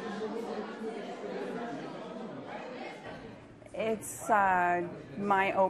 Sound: crowd noise

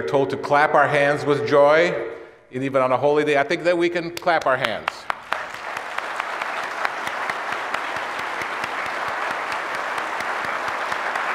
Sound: applause

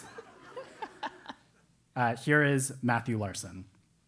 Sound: laugh

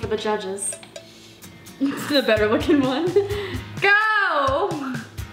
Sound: laughs

